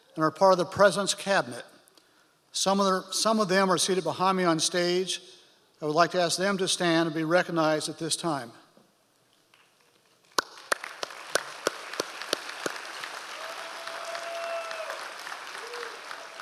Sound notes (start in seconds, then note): 10.3 audience applause